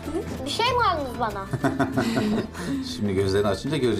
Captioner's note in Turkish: Gülme sesleri